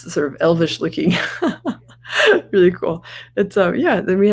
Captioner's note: laughs